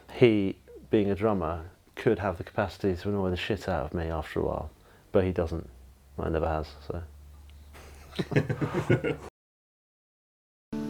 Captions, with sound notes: He, being a drummer, could have the capacity to annoy the shit out of me after a while, but he doesn't, never has, so. (laughing)